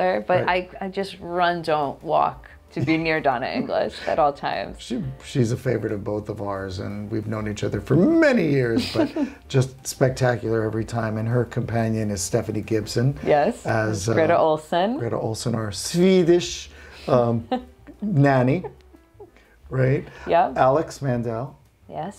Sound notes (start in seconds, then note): 2.7 chuckling; 8.6 chuckling; 17.0 chuckling